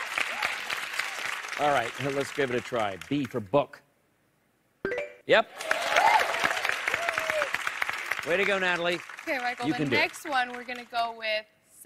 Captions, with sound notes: - Yeah, absolutely. All right. Now let's give it a try. B for book. [bell chimes] Yep. - Yeah. Yay! - Way to go, Natalie. You can do it. - Okay, Michael. The next one, we're gonna go